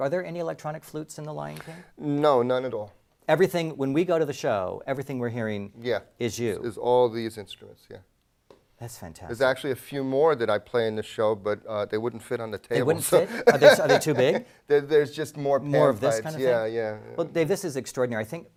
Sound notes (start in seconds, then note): 12.9 laugh